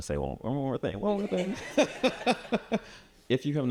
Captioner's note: chuckles